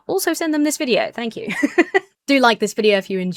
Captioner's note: laughs